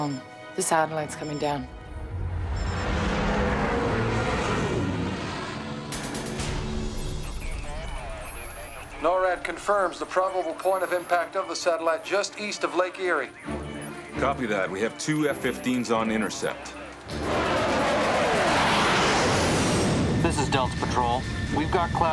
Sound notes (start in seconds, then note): 5.9 gunshot; 6.7 phone filter speech